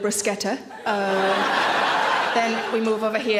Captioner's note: audience laughs